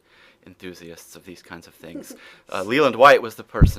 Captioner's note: laughs